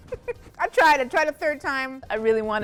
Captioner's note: chuckles